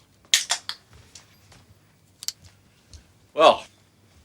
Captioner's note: can opening